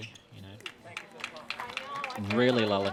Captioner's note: applause